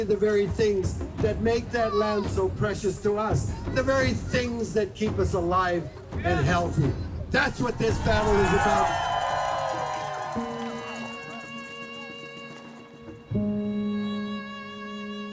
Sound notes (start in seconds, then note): 7.6 cheering; 10.2 soft violin music